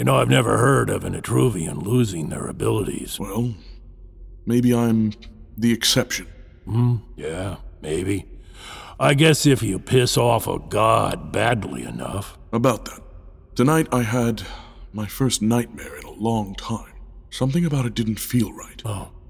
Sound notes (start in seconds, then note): none